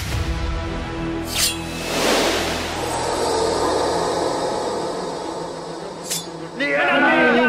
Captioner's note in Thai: เสียงกระบี่